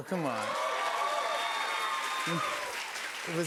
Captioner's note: cheers and applause